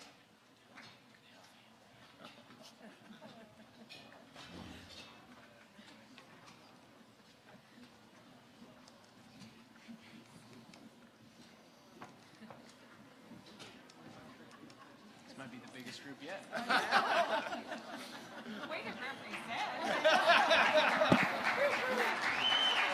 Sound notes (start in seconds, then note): 16.5 laughing; 19.2 audience applauding